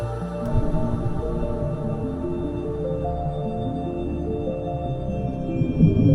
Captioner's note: bright music; water rumbling